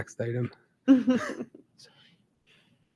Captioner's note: members laughing